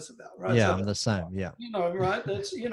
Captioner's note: exclaims